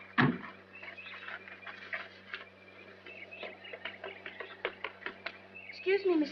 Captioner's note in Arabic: تُفتح الأبواب وتُغلق; خطوات